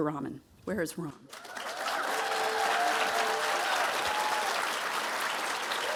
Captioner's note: audience applauding